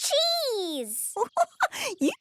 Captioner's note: giggling